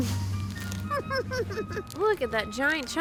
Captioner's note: laughs